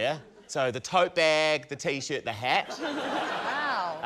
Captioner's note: laughter